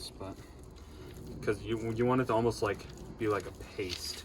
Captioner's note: none